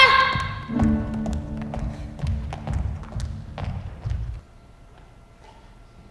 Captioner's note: footsteps exiting